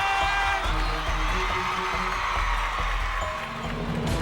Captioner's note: cheering continues